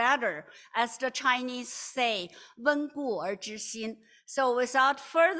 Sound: non-english

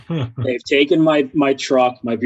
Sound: laughs

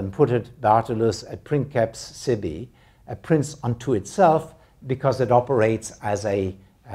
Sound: non-english

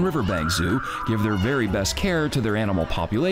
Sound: child screaming

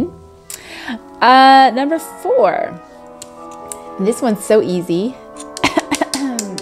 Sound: clears throat

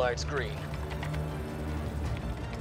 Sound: keyboard clacking

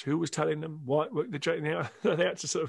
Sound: laughs

